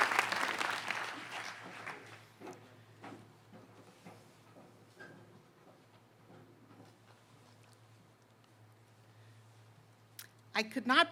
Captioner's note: applause